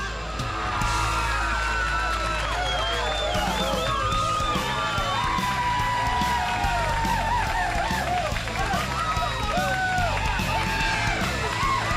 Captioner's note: crowd cheering